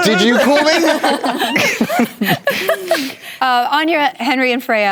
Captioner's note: laughter